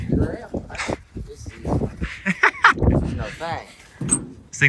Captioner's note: laughter